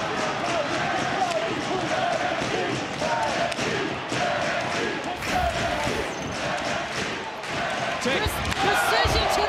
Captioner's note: audience chanting "nxt"